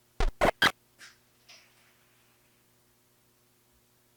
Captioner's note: static crackling